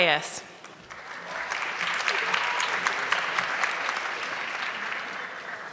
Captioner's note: audience clapping